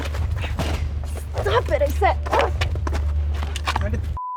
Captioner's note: grunts